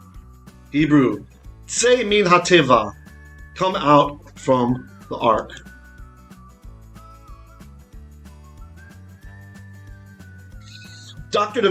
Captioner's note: Hebrew